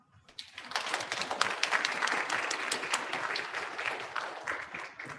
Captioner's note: audience clapping